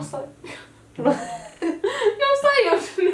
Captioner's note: laughs